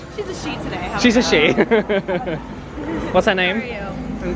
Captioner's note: laughs